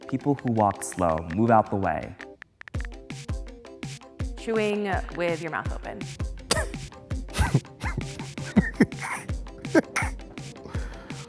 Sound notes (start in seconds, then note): 7.4 laughing